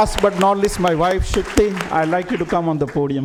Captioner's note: applause